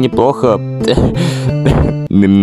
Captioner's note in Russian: задыхается